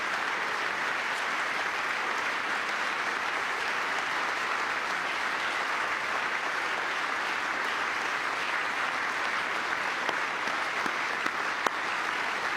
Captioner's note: applause